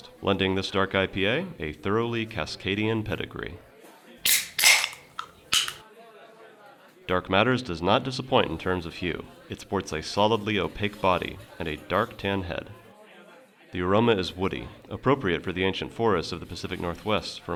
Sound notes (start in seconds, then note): 4.2 tab pops